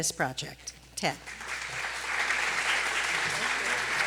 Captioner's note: applause